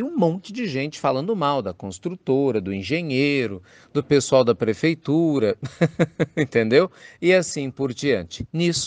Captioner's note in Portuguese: risos